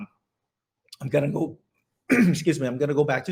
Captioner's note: coughing noise